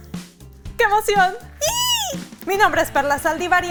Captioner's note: gets excited in Mexican